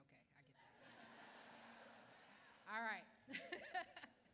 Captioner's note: laughter